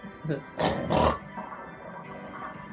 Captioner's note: snorts 2x